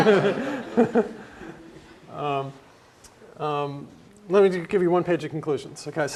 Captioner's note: laugh